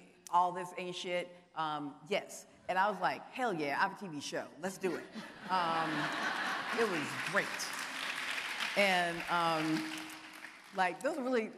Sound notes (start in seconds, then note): 5.2 audience laughing